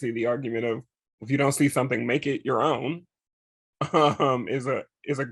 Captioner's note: chuckles